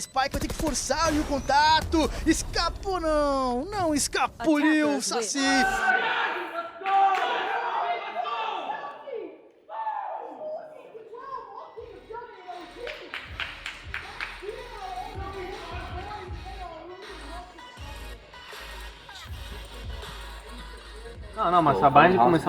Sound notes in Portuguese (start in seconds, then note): 5.3 gritos dos jogadores da optic